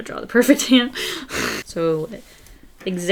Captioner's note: laughs